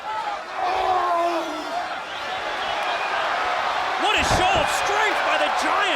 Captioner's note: The Giant yells